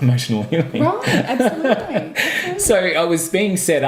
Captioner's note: laughing